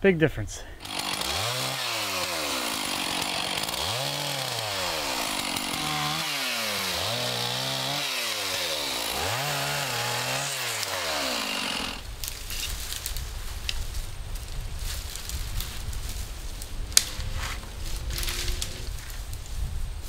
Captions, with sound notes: Big difference. (chainsaw whirring) (trees crunching)